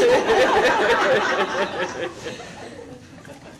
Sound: laughs

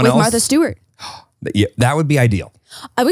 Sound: gasps

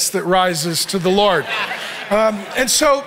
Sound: congregation laughing

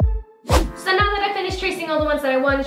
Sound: swooshing

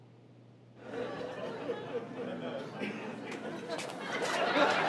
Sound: audience laughs

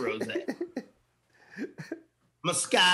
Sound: laughing

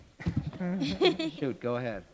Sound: chuckle

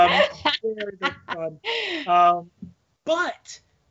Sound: laughing

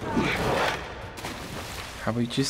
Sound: water splashes

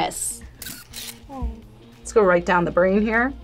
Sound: camera shutter clicks

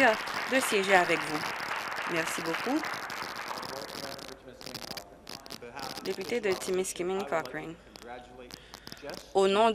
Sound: applause

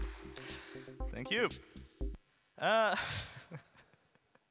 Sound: laughs

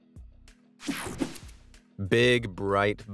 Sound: air whooshing

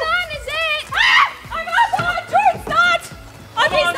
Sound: excited yelling

